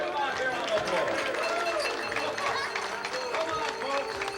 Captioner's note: applause